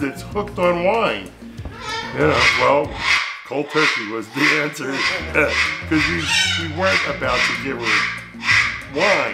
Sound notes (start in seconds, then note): 4.9 bird squawking loudly; 5.1 chuckles softly